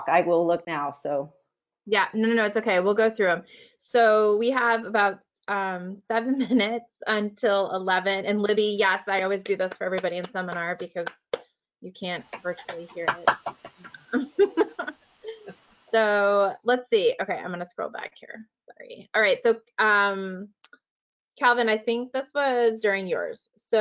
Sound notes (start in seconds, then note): 9.1 claps; 14.2 laughs